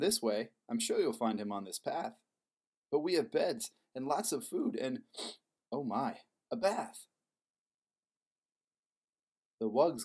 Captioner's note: sniff